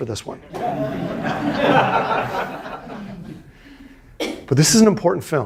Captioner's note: students laughing